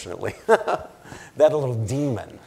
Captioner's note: laughs